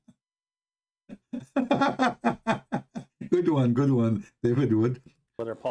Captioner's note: Ketawa